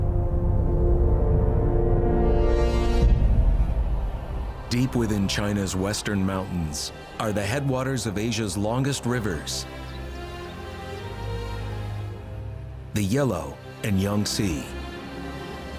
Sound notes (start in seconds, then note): 9.6 birds chirping